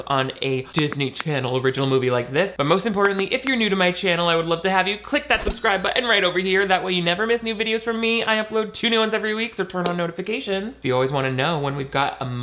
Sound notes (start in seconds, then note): 5.4 bell dinging